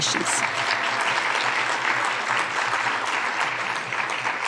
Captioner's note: audience applauding